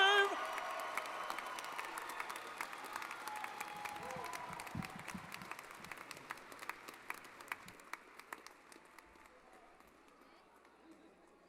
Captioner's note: applause & Cheering